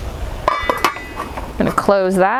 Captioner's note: lid clanking